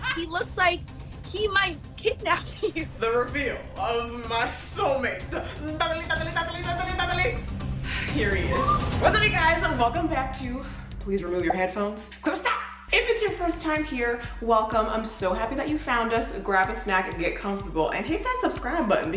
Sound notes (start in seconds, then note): 5.6 imitates drum roll